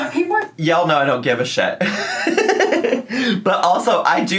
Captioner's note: laughs